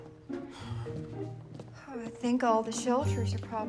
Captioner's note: sighs resentfully